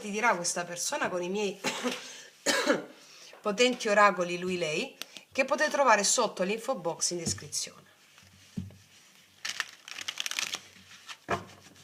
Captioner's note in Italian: tosse